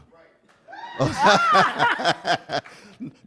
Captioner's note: laughter